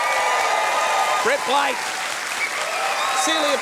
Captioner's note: cheering and applause